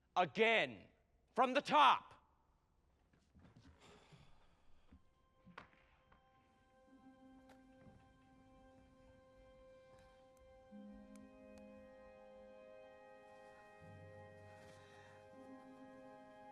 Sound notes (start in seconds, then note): 3.9 sighs; 6.9 somber music